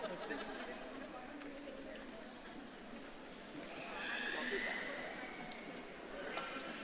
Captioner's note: audience murmuring